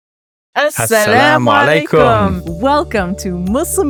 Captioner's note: both speaking non-English language